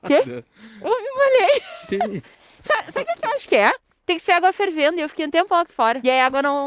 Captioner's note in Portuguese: risadas